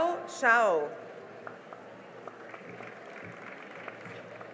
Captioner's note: cheering and applause